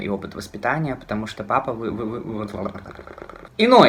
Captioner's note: stutters